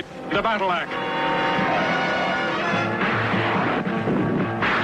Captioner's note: dramatic music; tires squealing; air whoosh; dramatic music